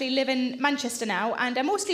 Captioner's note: none